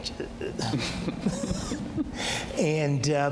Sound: both laughing

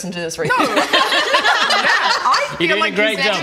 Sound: laughs in relief it wasn't them

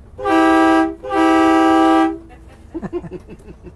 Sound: horn honking loudly; laughing

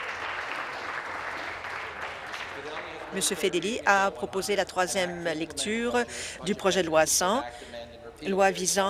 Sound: applause

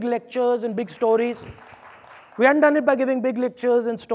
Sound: audience applauding

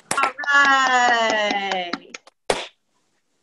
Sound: applause

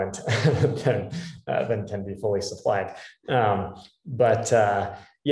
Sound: laugh

